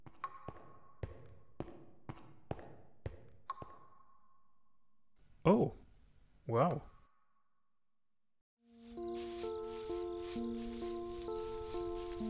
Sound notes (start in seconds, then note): none